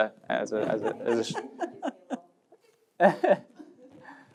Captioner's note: laughs